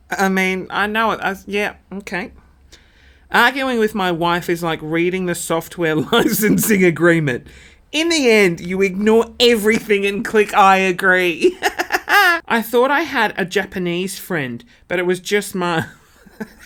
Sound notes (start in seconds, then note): 11.4 laughing; 15.8 laughing